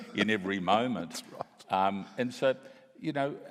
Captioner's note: laughs